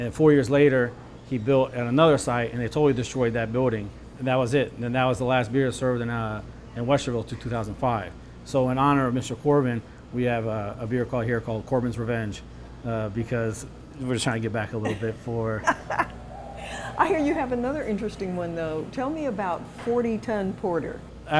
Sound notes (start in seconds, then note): 14.8 laughter